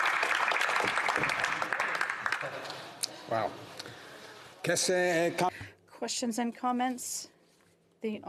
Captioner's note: some Applause